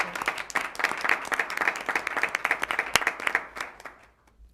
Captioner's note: applause